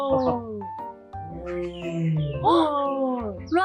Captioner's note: tiger sound